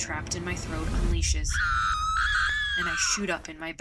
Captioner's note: shrill scream